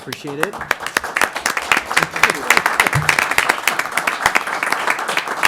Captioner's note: applause